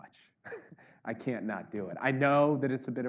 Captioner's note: Jake laughs